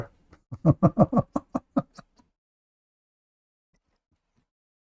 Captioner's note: Ketawa